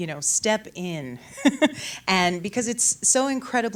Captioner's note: chuckles